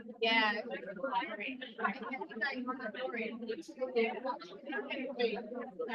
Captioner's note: audience members chattering